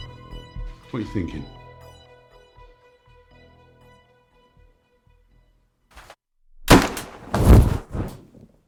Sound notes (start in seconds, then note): 6.6 gunshot